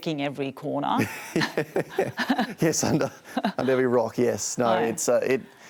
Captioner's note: laughs